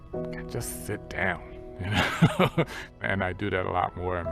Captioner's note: laughs